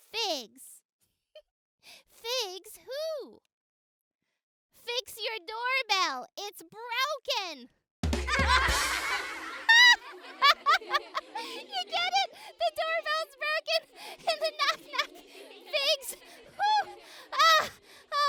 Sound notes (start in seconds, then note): 8.0 drum symbols; 9.2 kids laughing; 10.1 laughing